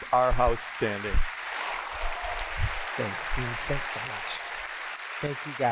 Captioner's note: applause